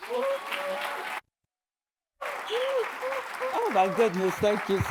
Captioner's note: audience cheers and applauds